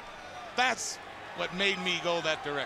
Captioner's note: crowd cheering